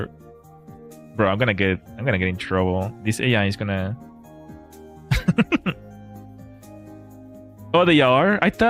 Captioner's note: laughter